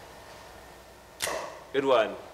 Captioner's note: camera clicks, flash pops